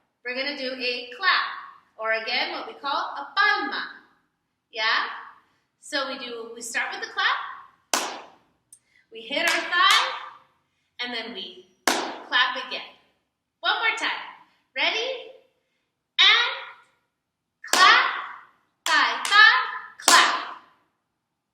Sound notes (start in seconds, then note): 7.9 clap; 11.9 hit hit; 12.3 clap